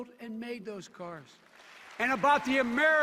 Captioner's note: cheers and applause